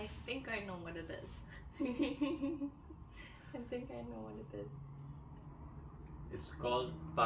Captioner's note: sneaky laugh